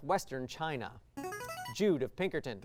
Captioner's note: signaling device tone